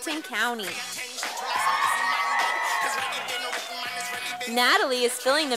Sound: sound of cheers from audience

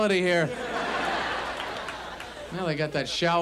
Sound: audience laughs

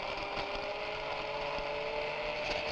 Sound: whirring

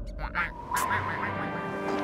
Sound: penguins quacking

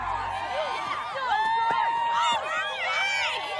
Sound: cheering

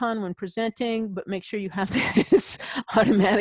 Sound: laughs

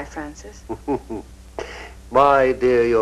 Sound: Francis chuckles

